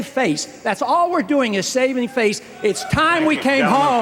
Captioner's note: cheers